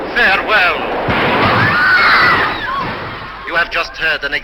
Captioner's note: train whistle and screams